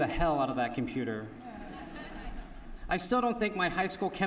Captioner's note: laughter